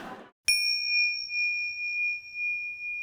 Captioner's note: bing